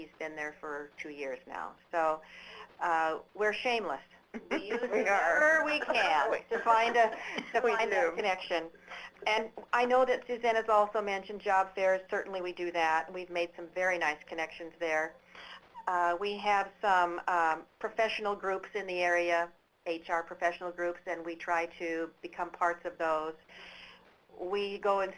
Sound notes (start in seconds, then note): 4.3 laughter